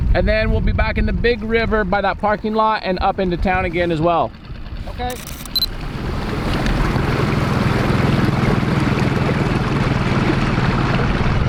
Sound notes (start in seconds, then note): 6.9 boat engine whirring